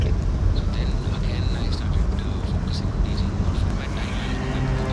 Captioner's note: Radio playing